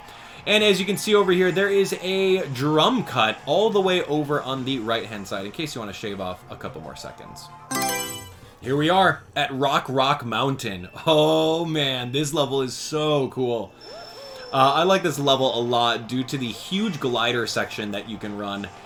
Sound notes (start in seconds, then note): 7.7 Mario Selection Sound